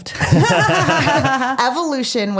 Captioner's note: laughing